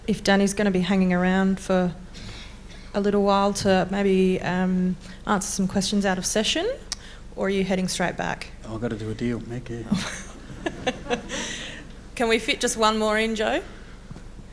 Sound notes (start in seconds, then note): 9.9 laughs